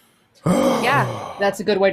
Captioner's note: groans